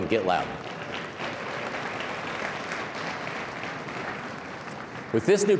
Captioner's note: applause